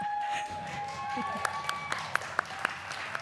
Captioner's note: applause